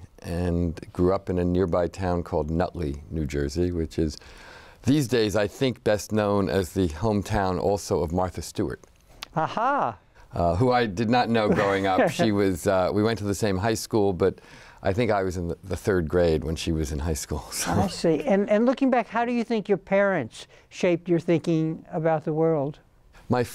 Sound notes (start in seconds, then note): 9.3 laughs